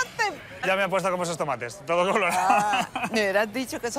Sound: laughs

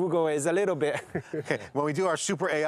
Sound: laughs

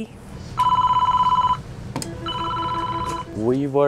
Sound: phone ringing

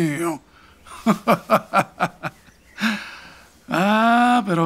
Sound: laughing

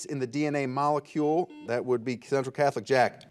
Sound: buzzer buzzes

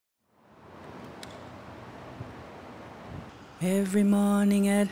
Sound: wind blowing

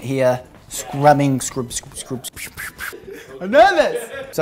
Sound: mimics scouring

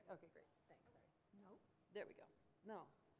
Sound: voiceover

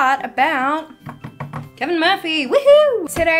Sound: drums on table

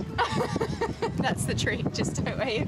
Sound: laughing

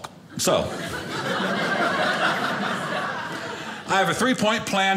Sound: audience laughing

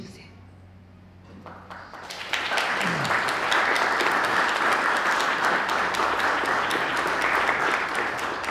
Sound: applause

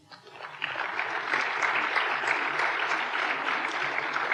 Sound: applause

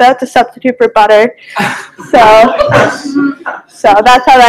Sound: laughter

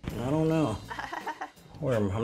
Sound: chuckles

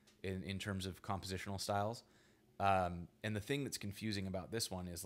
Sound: none

